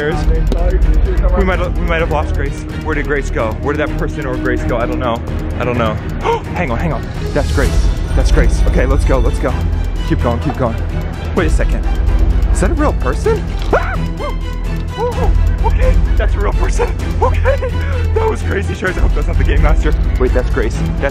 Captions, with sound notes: Sharers we might of lost Grace. Where did Grace go? Where did that person or Grace go? I don't know. I don't know. Hang on, hang on. That's Grace. That's Grace. Okay, lets go, lets go. Keep going, keep going. Wait a second, is that a real person? (yells) Okay, that's a real person. Okay! That was crazy. Sharers, I hope that's not the game master. Wait, that's Grace.